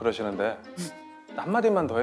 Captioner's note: pfft